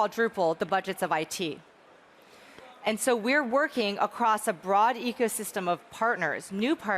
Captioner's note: none